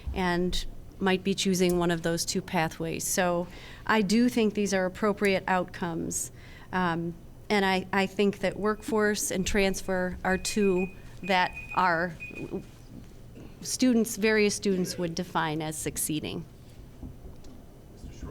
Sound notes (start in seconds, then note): 8.3 timer beeping